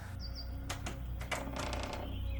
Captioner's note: hinges squeaking; latch rattling